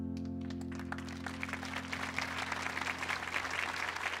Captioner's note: audience applauding